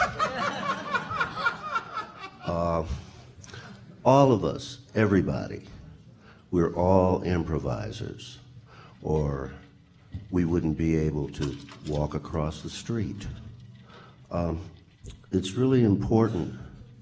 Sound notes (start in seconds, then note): 0.0 laughter